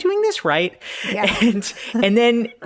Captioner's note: laughing